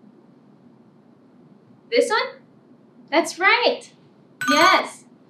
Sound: ringing bell

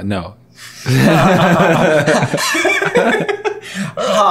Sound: laughing

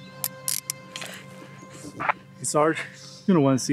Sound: Lisa breathing heavily

